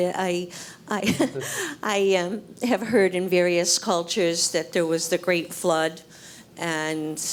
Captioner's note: laugh